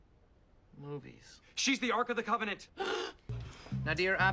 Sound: ABED gasps

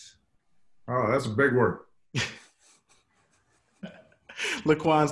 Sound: laughs

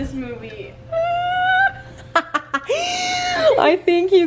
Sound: laughing

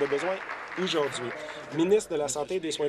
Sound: applause

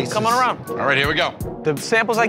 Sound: none

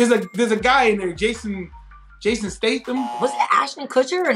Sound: buzzer rings

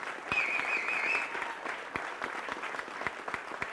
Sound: whistles

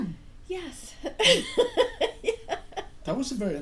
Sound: voiceover; laughing; voiceover

